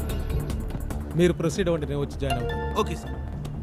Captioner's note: Phone chimes